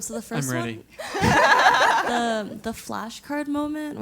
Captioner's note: laugh